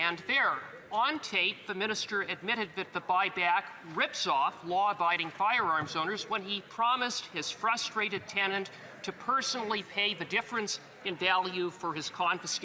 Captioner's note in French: voix de l'interprète